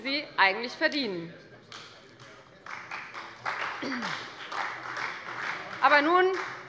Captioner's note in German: Beifall bei der FDP und bei Abgeordneten der SPD